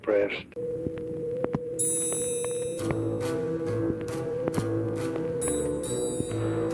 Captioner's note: tense dramatic music; phone ringing